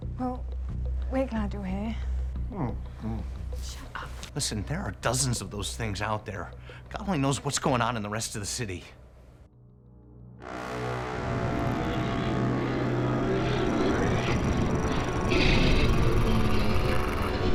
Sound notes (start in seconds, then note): 13.6 creature roaring